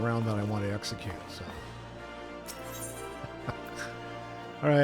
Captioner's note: laughs